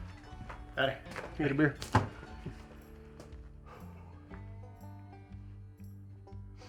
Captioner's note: sighs